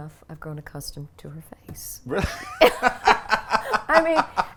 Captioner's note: laughs